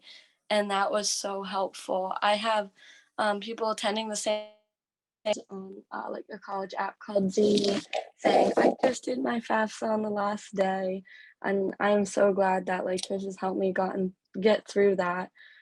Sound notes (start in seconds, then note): 7.0 microphone static